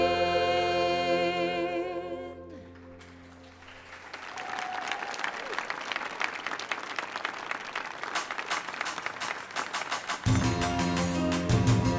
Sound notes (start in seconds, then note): 2.8 audience applauding; 8.4 upbeat soft rock music